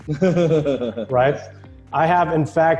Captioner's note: laughing